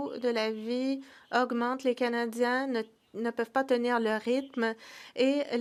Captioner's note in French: voix de l'interprète